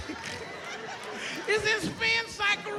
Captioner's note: laughs